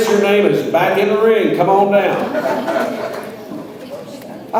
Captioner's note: audience laughs